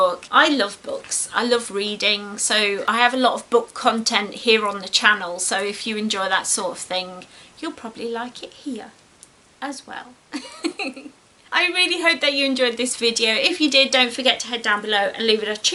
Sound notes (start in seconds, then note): 10.3 giggles like the dork she is